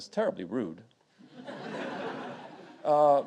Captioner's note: audience laughing